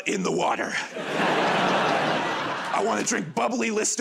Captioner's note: laughter